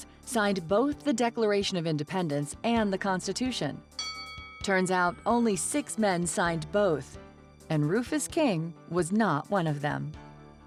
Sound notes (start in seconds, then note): 4.0 bell dinging